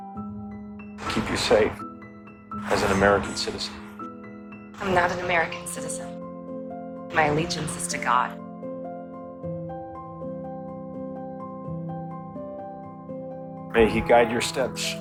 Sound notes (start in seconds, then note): 1.2 voiceover; 4.9 voiceover